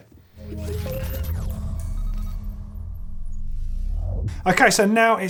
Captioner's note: digital beeping and whooshing